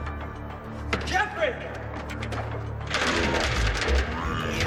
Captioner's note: door thuds; door rattling; ghostly voices chattering